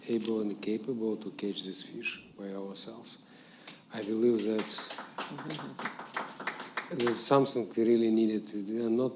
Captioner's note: applause